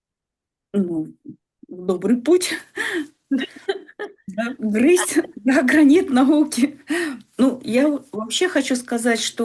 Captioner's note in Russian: смех